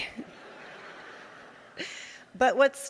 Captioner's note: audience laughing